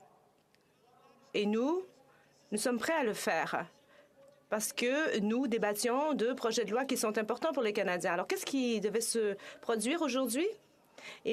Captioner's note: speaking French